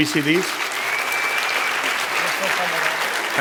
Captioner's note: applause; speaking spanish